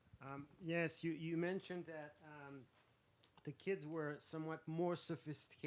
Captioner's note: voiceover